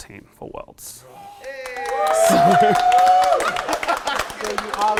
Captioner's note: people cheering